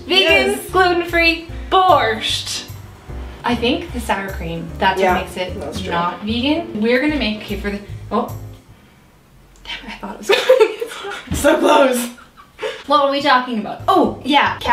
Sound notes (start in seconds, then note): 10.3 laughs